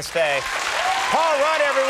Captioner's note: audience cheers and applauds